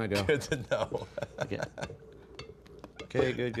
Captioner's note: chuckling